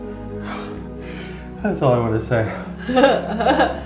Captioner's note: laughs